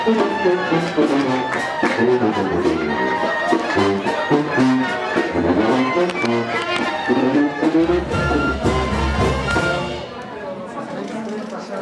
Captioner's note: applause